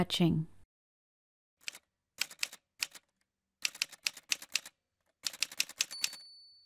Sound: typewriter sounds

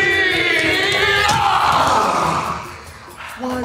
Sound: men yelling

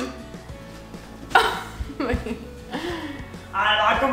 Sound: laughing

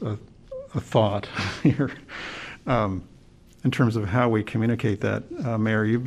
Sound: laughter

